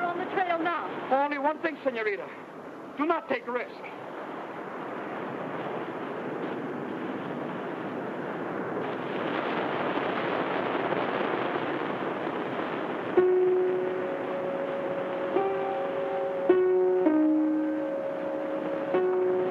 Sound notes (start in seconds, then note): 9.3 waves crash; 13.2 tense eerie music